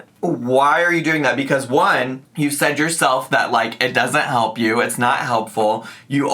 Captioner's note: none